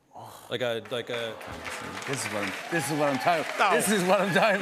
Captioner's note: applause